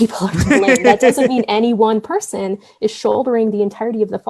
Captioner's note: laughter